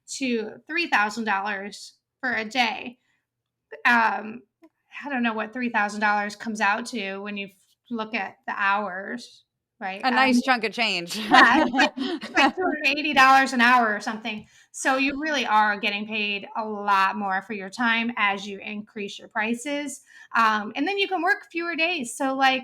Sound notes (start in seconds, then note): 11.6 laugh